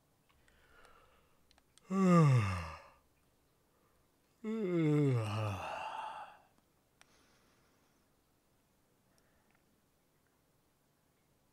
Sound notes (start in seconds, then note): 1.8 yawn